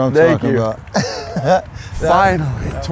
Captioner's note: laughs